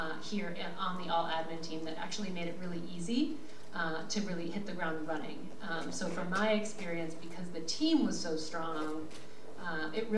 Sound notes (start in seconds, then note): none